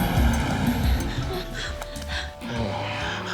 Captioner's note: heavy breathing